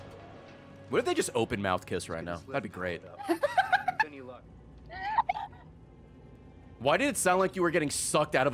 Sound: laughs

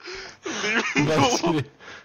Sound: breathing

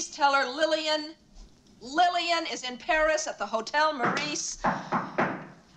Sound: Knocking

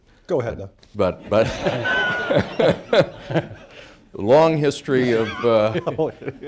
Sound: laughter

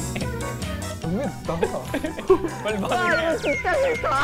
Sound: grinding teeth

